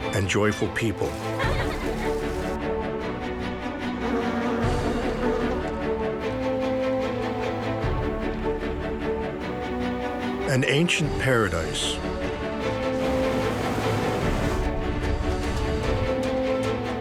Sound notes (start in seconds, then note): 0.0 laughing; 2.6 uplifting music; 13.0 inspirational instrumental